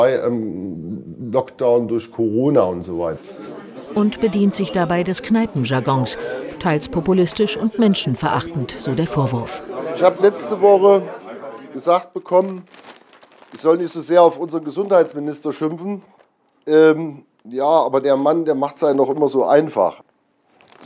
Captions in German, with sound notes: oder bei Lockdown durch Corona und so weiter. (Stimmengewirr) Und bedient sich dabei des Kneipenjargons. Teils populistisch und menschenverachtend, so der Vorwurf. Ich hab letzte Woche gesagt bekommen, ich soll nicht so sehr auf unseren Gesundheitsminister schimpfen. Ja, aber der Mann, der macht's einem auch immer so einfach.